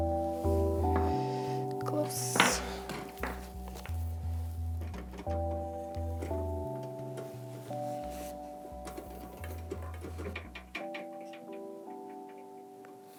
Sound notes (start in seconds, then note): 4.5 metal scale rattling